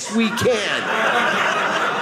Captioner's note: audience laughing